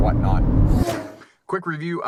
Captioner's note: car zooms